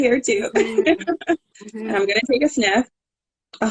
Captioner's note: laughing